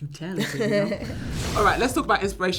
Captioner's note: little laughs